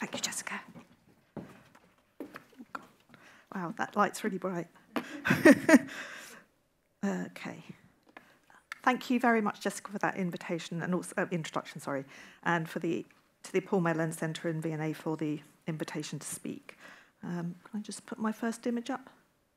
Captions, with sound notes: - Thank you Jessica. Wow, that light's really bright. (audience laughing) (laughing) Okay, thank you very much Jessica for that invitation and also introduction, sorry. And to the Paul Mellon Centre in V&A for the invitation to speak. Can I just put my first image up?